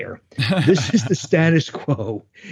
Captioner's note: laughs